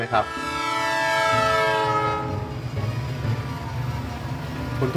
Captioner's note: train sound